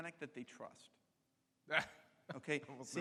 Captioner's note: laughs